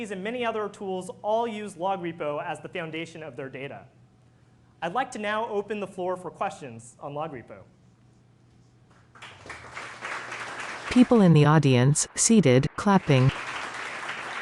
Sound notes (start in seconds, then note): 8.9 applause